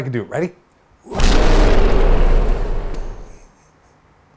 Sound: loud roar

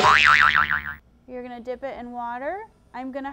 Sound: boingyoing sound effect

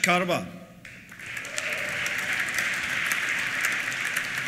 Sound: applause; cheers

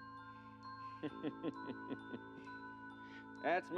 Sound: laughs

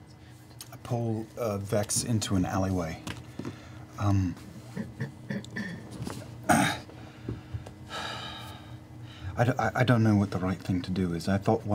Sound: sighs

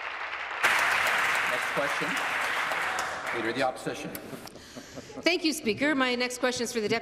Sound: applause

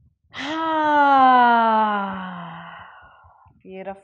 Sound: sighs

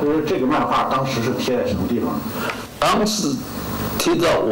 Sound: foreign language

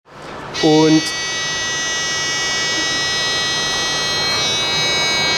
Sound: lab sounds, laughter

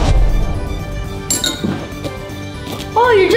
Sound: bowl clinks

